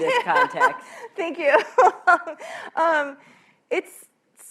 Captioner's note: laughs